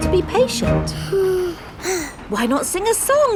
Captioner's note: both sigh